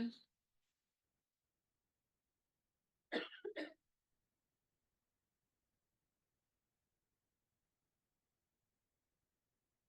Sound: coughing

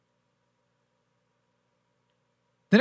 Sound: silence

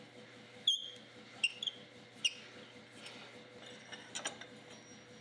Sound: wheel squeaking

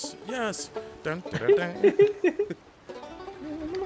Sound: laugh

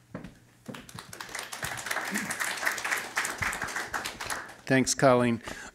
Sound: applause

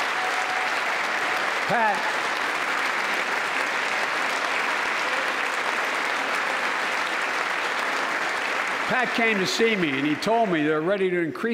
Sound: applause

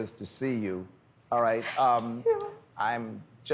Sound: whispers

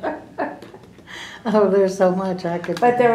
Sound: laughter

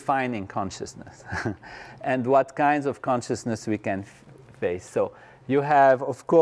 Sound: laugh

